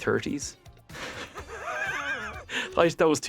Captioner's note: laughs